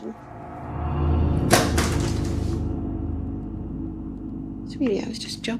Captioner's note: ominous music; water bottle thudding